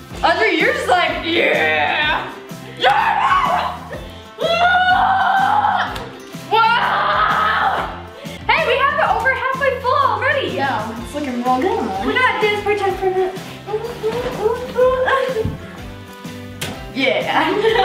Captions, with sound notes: Audrey you're just like (grunts) - (loud groans) - Whoa. Hey we have it over halfway full already. - Yeah, it's lookin real good and all. - Yeah.